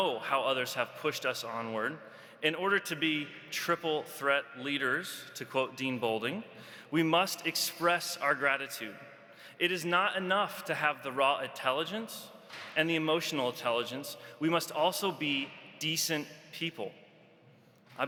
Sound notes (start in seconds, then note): none